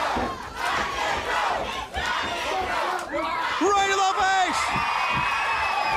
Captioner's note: crowd cheering